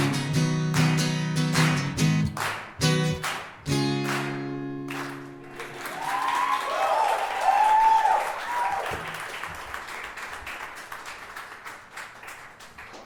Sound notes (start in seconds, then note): 0.0 guitar strumming; 0.1 audience clapping; 5.5 audience cheering